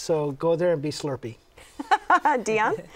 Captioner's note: laughter